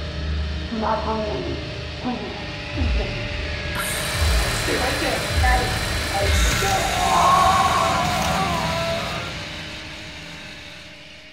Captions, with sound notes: - Do not come near me, please! Please, Addy. (saw whirring) Stay right there, Addy! (screaming)